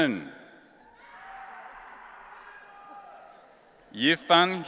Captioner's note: audience cheering